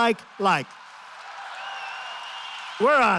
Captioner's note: applause